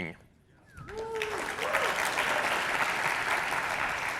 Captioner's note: cheers and applause